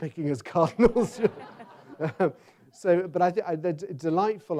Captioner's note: audience laughs